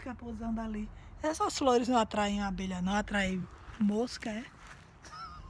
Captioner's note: laughing